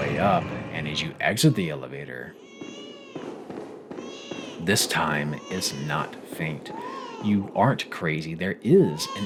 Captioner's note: baby crying loudly